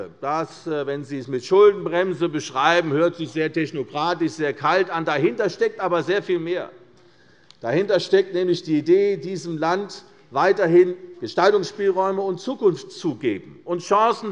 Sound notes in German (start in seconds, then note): none